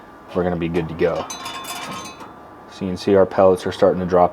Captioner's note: pellets clanking